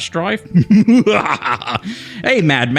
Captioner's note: laughter